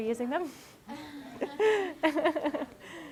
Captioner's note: laughter